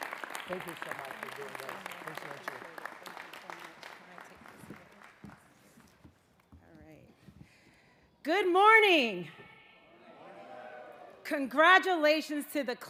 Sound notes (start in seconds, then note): 0.0 applause